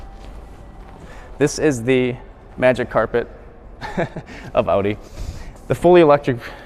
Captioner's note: chuckles